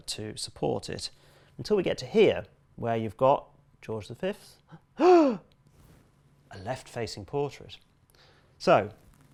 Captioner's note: gasp